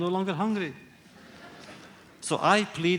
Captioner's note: laughter